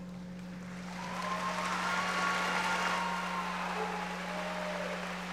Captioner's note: audience applauding